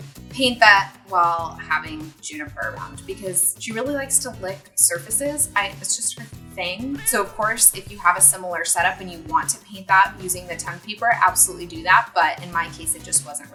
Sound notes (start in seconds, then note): 6.9 meow